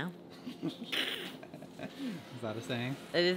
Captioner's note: chuckling